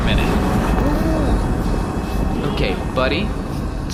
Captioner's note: Pleck’s muffled groans